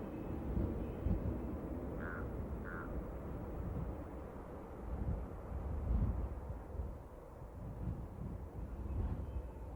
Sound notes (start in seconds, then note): 2.4 bird squawking